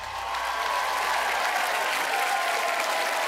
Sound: audience cheers

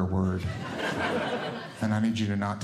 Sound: audience Laughing

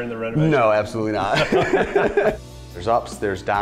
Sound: laughing

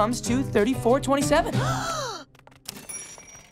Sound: gasping

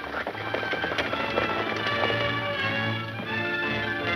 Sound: horses galloping

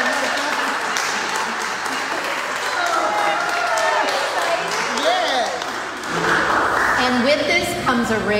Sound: applause; cheering

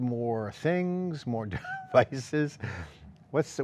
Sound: softly chuckles

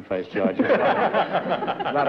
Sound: laughter

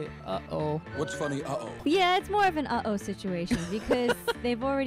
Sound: laughing

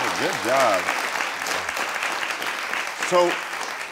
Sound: crowd cheering; crowd clapping

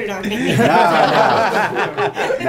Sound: laughter

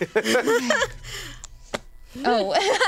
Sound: laughing

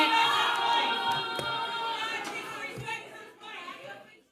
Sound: audience clamoring

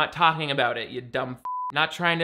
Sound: beeps

